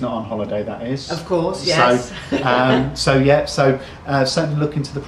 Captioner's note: chuckles